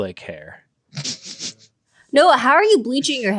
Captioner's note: laughing